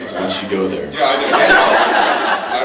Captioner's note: laughs